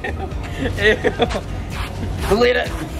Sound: laughs

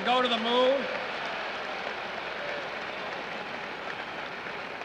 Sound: audience applauding

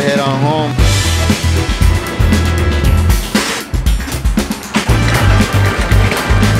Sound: upbeat music; objects clattering

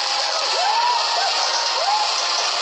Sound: cheering

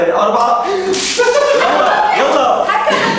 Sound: laughing

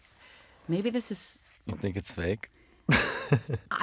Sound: laughs

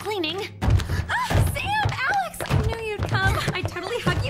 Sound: exclaims

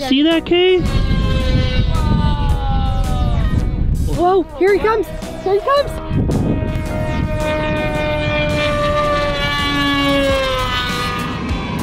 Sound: plane loudly fly’s

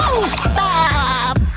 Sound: laughing

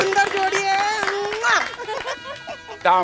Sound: laughter

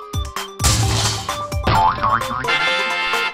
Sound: crash; tada fanfare

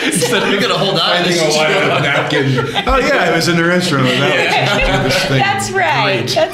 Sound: laughter

